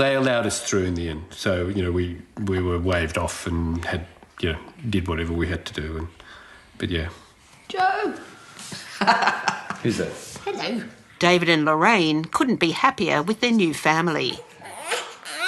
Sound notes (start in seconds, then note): 8.8 laughs